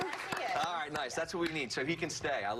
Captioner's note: applause